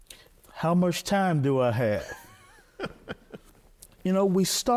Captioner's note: laughing